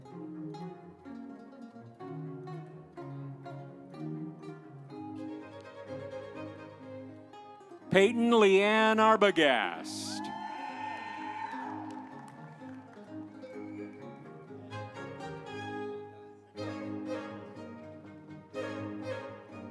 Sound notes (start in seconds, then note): 8.4 audience cheering; 12.7 instrumental music